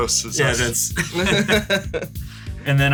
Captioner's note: laugh